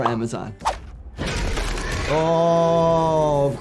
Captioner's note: monster growls